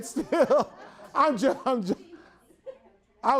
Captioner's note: everyone laughs